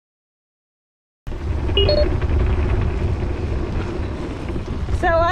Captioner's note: beeping noise